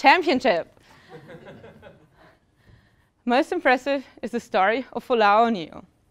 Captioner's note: laugh